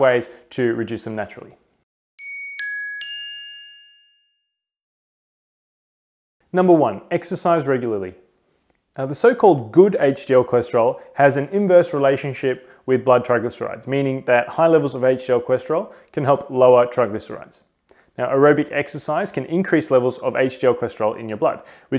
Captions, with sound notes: at five ways to reduce them naturally. (chimes) Number one, exercise regularly. Now the so-called good HDL cholesterol has an inverse relationship with blood triglycerides, meaning that high levels of HDL cholesterol can help lower triglycerides. Now aerobic exercise can increase levels of HDL cholesterol in your blood